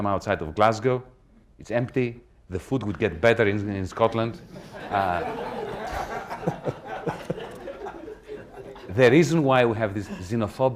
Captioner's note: laughter